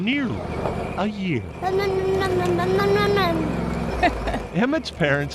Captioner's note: laughter